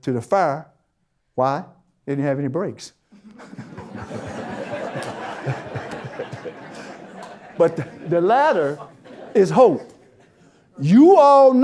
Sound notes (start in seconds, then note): 3.2 audience Laughter